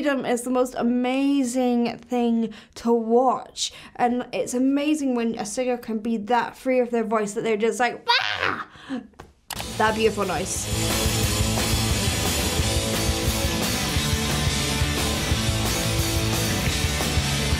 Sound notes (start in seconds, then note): 8.0 yells; 9.5 rock music